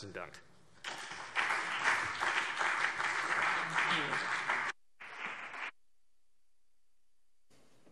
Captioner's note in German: Beifall CDU und BÜNDNIS 90/DIE GRÜNEN